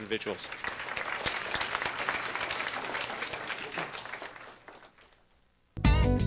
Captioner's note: applause